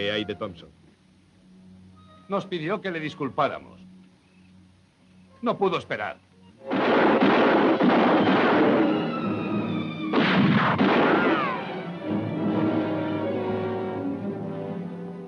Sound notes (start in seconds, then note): 6.6 explosión de armas; 12.3 música dramática